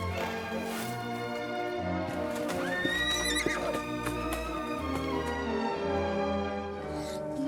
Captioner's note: screaming